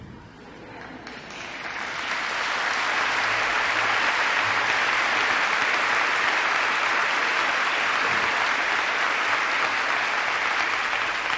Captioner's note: applause